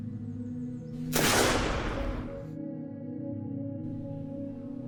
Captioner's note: gun firing; intense music